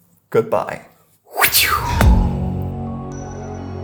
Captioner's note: whooshes